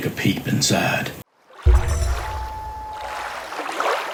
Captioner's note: water rushing, loon calling